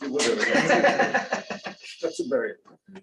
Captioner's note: laughter